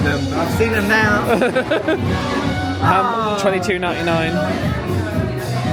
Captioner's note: laughs